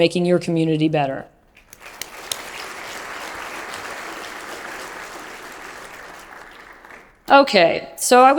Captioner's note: applause